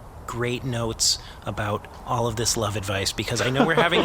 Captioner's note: sincerely; the representatives chuckle happily